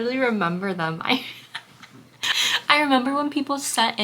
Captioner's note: laughs